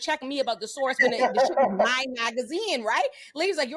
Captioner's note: laughter